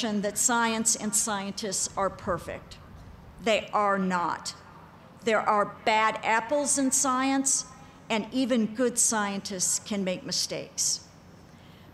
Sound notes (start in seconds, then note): none